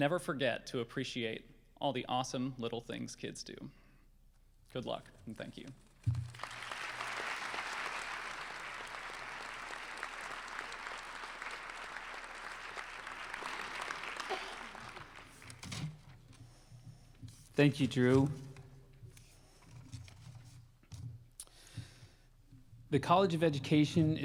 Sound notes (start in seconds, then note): 8.3 applause